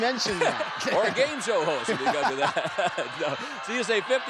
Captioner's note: chuckles